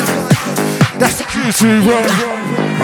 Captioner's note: blat